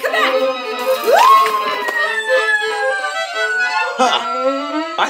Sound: screams

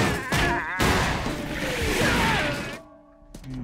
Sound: laughing; thudding

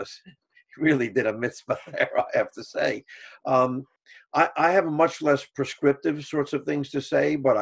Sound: laughs

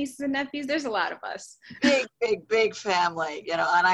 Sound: laughs

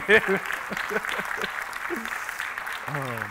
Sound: laughing; applauding

